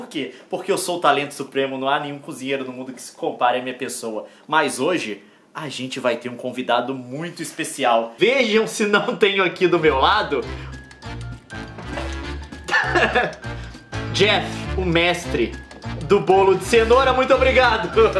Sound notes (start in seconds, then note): 12.6 laughs